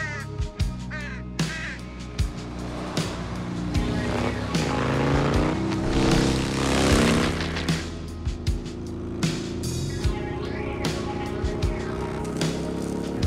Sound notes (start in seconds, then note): 2.5 motorcycle humming